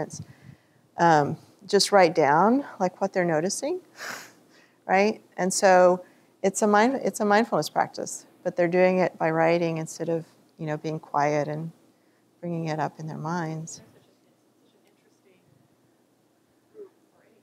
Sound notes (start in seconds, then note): none